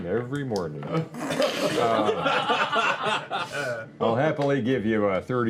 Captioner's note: laughter